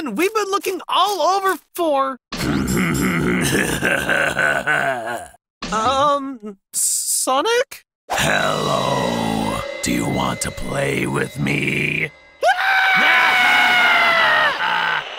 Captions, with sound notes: We've been looking all over for... [creepy laughter] U-Um... S-Sonic? Hello. Do you want to play with me? [screaming in fear] [sinister laughter]